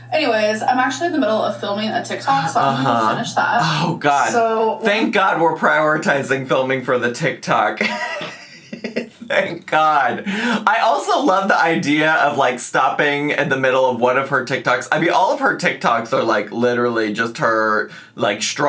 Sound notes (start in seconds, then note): 7.8 laughing